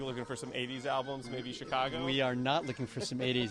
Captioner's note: laughing